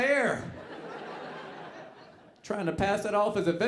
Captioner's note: audience laughing